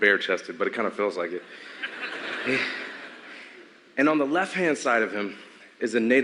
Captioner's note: laughter